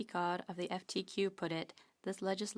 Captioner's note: speaking French